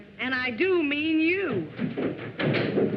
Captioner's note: stomping on stairs